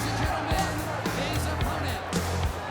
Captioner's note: crowd chatter